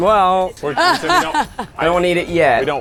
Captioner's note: laughs